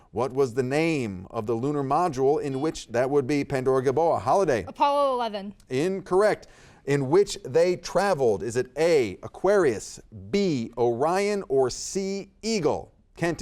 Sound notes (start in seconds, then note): 2.9 buzzer beeps